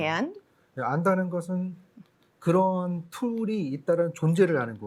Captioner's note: speaking korean